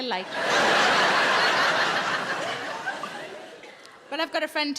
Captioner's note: audience laughs